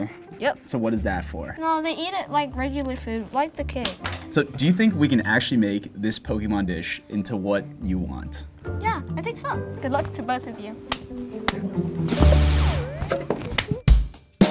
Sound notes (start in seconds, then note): 12.0 cartoon blast; 13.4 giggles; 14.3 upbeat music